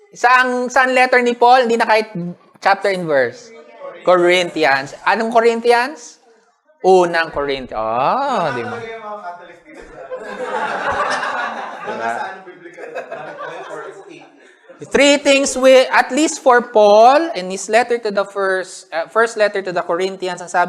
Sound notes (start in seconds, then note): 8.1 exclaims; 9.6 laughter and murmurs